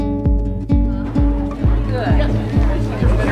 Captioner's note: crowd noise